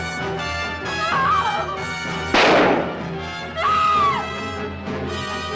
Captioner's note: scream - gunshot